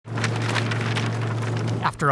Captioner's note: flags blowing in wind